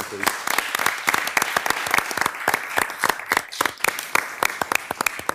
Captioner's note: participants clapping